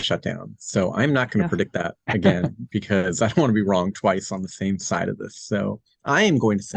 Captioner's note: chuckles